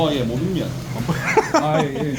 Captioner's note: haha